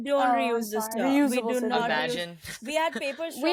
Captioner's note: all chattering